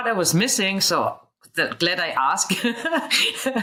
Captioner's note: laughs